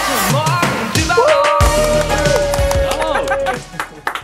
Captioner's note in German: Applaus